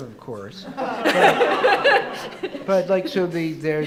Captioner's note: audience laughing